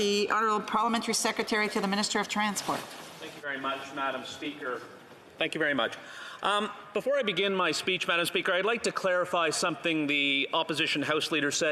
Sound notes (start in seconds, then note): 4.9 speaking French